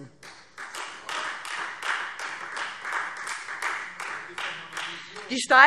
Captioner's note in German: Beifall : Das ist doch mal eine Vision!